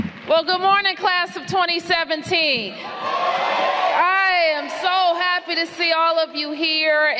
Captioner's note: applause